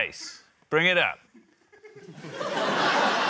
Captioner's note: laughter